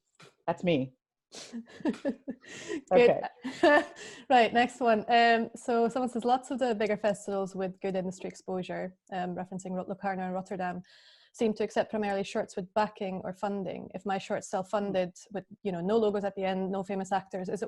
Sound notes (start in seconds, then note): 1.6 laughs